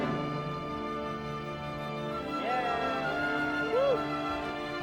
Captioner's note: sister cheers